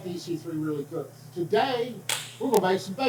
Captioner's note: hands clap